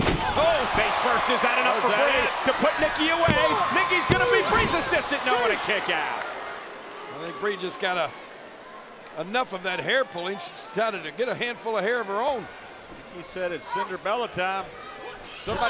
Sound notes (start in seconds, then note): 6.2 spectators cheering